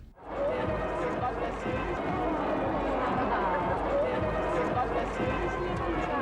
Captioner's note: upbeat music; people chattering